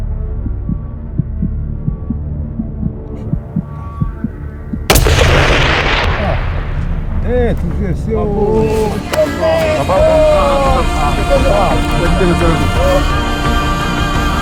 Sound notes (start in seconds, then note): 0.3 heartbeat; 4.9 shot